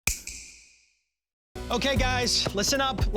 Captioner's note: snap